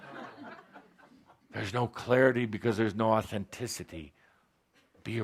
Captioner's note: laughter